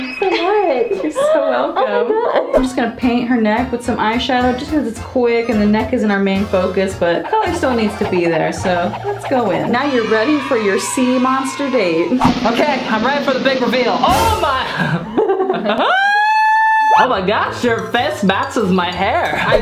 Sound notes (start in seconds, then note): 14.3 laughs; 15.8 screams